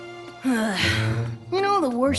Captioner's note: Spike sighs